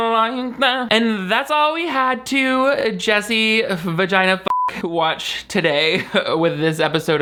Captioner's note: beep